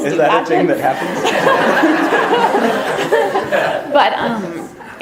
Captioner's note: audience laughter